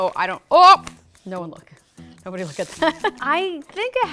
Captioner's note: laughs